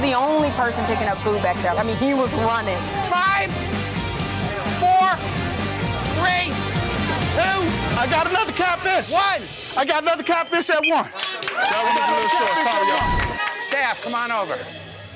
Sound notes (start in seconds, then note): 9.8 crowd cheering